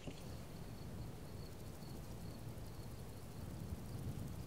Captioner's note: crickets chirping